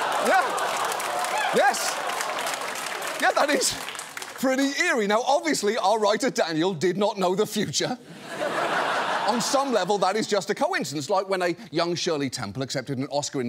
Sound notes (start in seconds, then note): 8.0 laughter